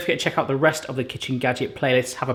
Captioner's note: none